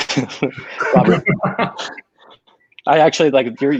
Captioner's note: all laughing